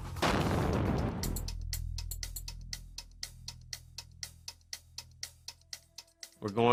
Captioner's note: dramatic music; explosion booming